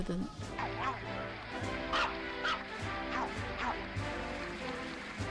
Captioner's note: patriotic woofing